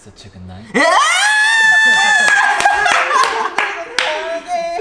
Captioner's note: screaminggg